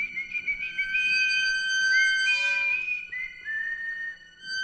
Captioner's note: squeaky gate opens and closes